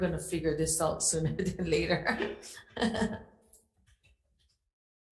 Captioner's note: laughs